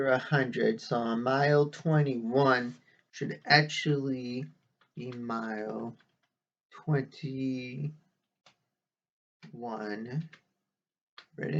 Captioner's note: tapping of keyboard